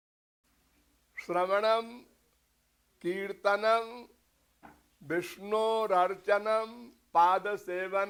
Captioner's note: chanting